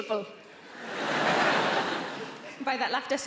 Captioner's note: audience laughing